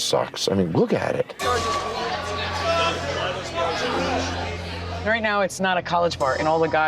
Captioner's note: indistinct crowd chatter